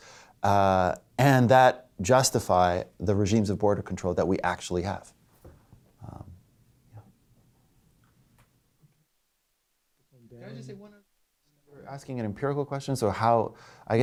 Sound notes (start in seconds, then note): 11.3 audio drops out